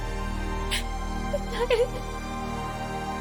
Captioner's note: crying